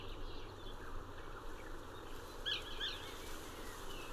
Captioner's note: birds Tweeting